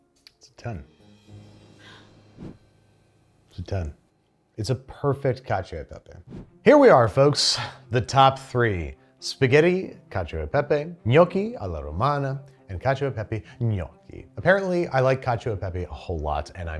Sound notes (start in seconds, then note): 1.8 gasps; 2.2 air whooshes; 6.2 air whooshes